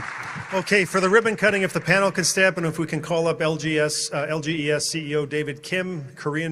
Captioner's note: applause